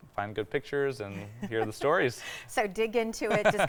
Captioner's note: laughing